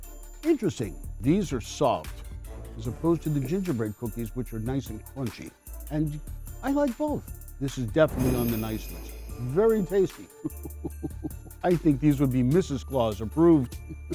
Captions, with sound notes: Interesting. These are soft as opposed to the gingerbread cookies, which are nice and crunchy, and I like both. This is definitely on the nice list. (bells ringing) Very tasty. (chuckles) I think these would be Mrs. Claus approved.